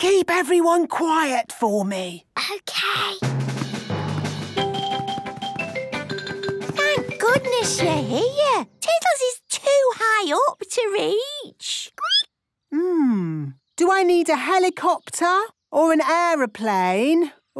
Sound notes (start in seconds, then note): 3.2 rapid music; 11.3 squeaking